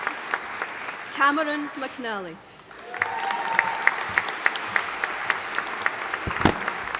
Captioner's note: audience applauding